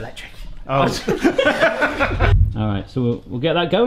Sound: both laughing

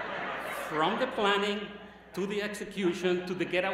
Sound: laughter

